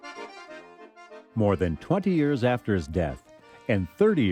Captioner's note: voiceover